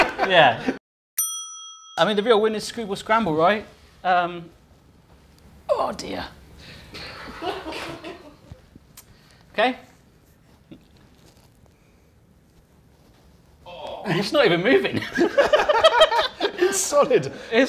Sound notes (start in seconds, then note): 2.1 in pained tones